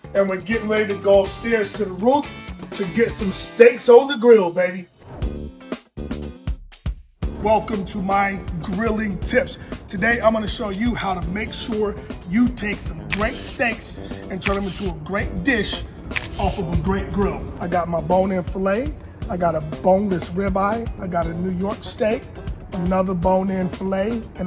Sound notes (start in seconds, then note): 5.0 lively music; 13.0 camera snapping